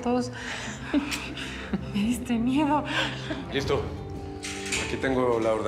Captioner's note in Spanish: risas